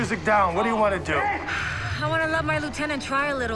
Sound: sighs

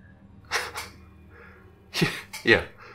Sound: Jimmy laughing

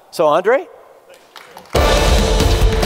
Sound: applause; dramatic music playing

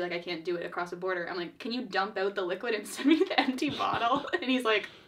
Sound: both laugh

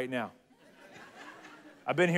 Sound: congregation laughs

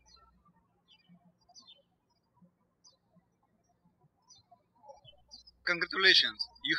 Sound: birds chirping

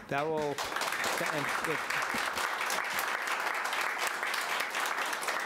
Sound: audience applauding

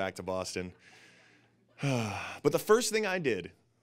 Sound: sighs

